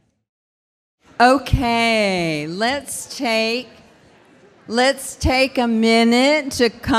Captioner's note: laughs